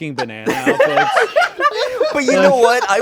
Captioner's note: all laughing